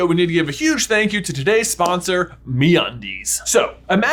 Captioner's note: hands clap